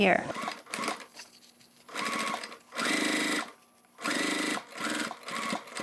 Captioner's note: sewing machine whirring